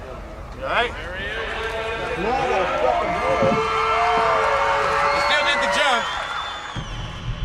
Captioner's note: crowd cheering